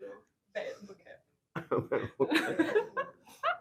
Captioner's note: laughs